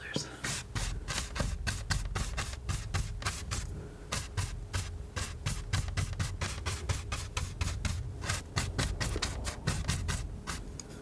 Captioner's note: scratching